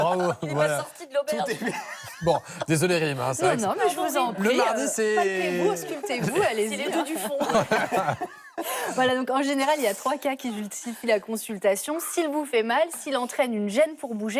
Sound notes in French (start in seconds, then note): 2.2 rires